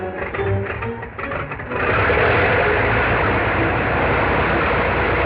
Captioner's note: plane whirring